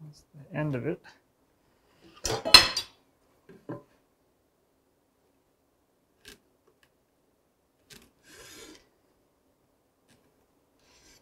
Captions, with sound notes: That's the end of it. (ruler clatters) (tool scrapes)